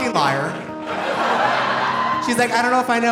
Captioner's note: audience laughing